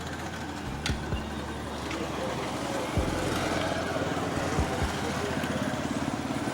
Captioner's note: car engine